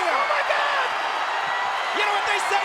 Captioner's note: audience cheers